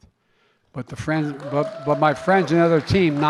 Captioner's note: applause